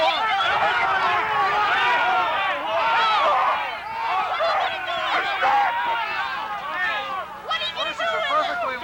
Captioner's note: crowd objects loudly